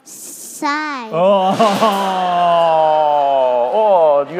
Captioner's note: crowd laughing